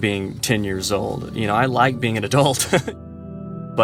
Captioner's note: laughter